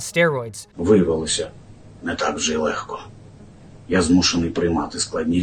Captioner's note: speaking in foreign language